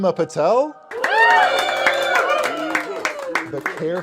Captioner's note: cheers